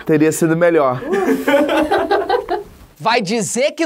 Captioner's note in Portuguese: risadas